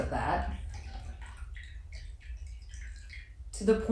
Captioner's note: water splashing